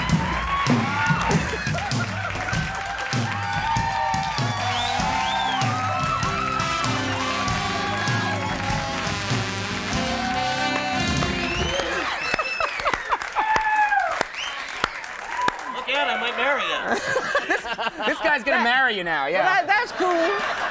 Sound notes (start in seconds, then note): 10.7 Conan laughing and clapping